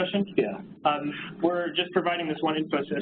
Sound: pat

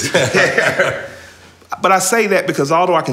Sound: laughter

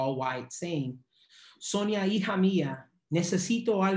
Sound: speaking spanish

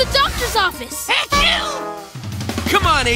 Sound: sneezing

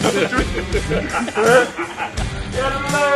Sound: laughing; upbeat rock music

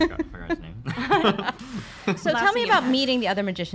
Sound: laughter

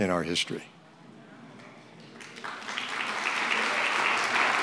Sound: crowd applauding

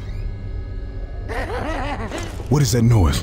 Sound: laughing continues

